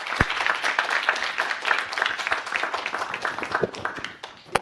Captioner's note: applause